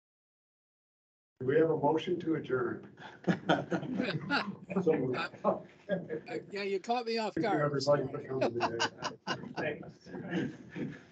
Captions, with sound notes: Do we have a motion to adjourn? [both laughing] - Yeah, you caught me off guard. [laughing]